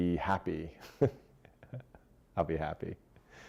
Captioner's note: laughing